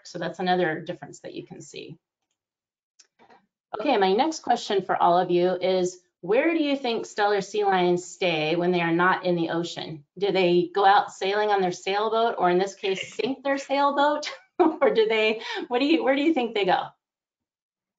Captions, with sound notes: So that's another difference that you can see. Okay, my next question for all of you is where do you think Steller sea lions stay when they are not in the ocean? Do they go out sailing on their sailboat or in this case sink their sailboat? (chuckles) Where do you think they go?